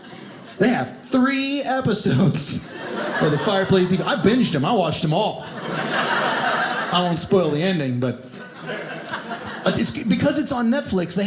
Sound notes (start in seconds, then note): 5.5 audience laughing